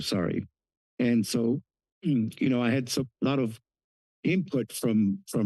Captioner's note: clears throat